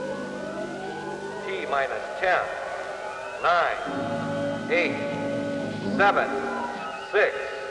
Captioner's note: man on PA